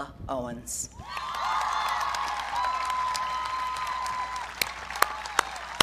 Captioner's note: audience cheering